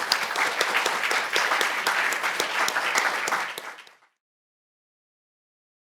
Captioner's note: audience applauding